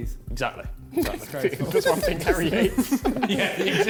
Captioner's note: men laughing